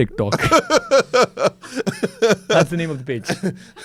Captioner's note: laughs